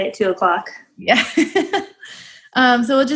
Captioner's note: giggles